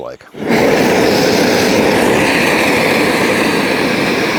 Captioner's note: torch roaring